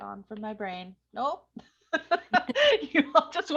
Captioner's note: laughing